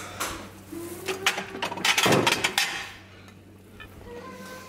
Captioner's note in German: geschirr klappern